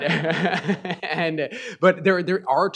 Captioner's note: chuckles